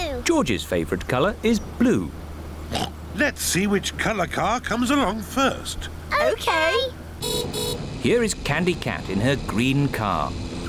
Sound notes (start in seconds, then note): 2.7 oinks; 7.2 horn beeps